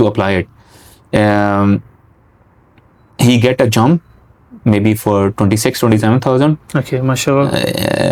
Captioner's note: nasal sound